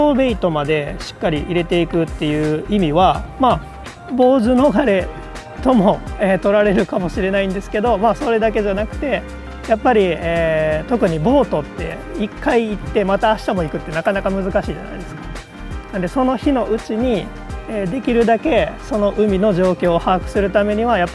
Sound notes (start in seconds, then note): 7.1 laughs